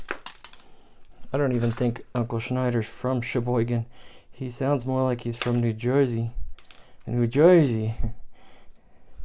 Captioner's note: talk like New Jersey accent